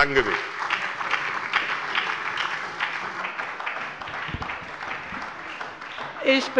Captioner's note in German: Beifall bei der SPD und bei Abgeordneten der FDP